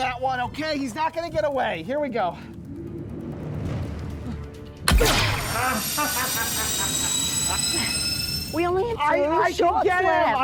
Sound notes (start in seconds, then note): 4.8 gunshot; 6.0 laughs